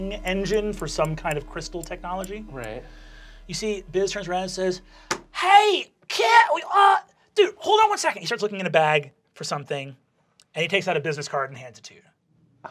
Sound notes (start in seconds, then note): 5.9 stuttering